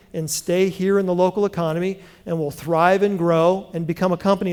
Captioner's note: none